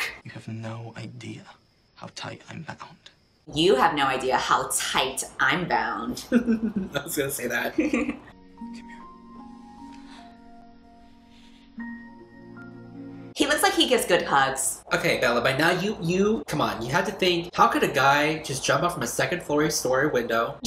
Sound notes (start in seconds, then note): 6.2 laughs